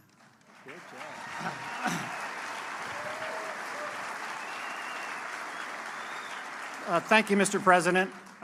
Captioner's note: applause